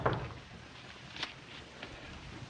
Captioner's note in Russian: Стук в дверь